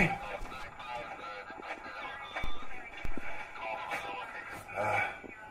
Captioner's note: radio sounds in background